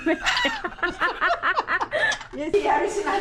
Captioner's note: laughter